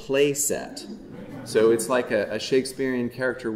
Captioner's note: audience chuckling